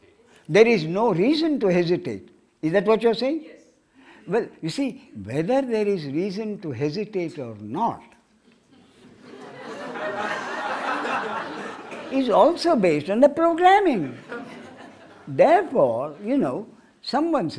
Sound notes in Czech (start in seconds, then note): 8.8 smích